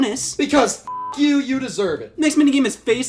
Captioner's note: beeps